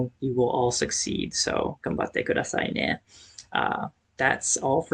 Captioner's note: japanese